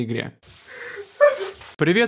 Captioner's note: crying